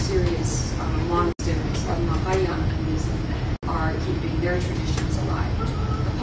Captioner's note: non-english